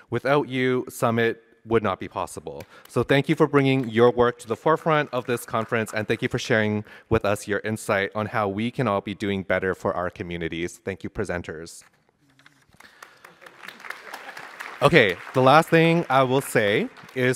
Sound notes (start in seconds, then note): 12.6 applause